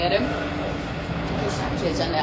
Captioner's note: plane sound